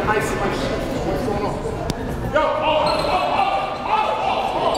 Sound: gymnasium bustles

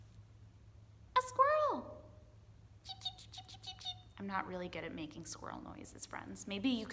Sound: attempts to make squirrel noises

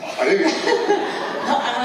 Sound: laughters

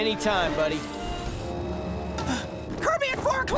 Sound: gasping

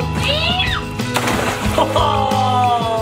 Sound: water splashing

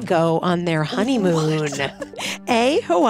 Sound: laughs

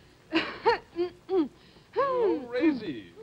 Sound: Resi clears throat

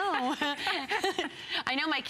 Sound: laughter

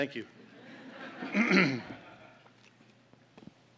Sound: laughter

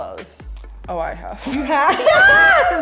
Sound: laughs

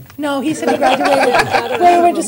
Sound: laughter

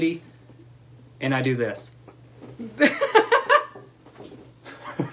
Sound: laughter

